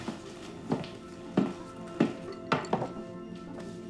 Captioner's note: footsteps echo